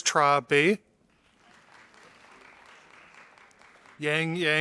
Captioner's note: audience applauding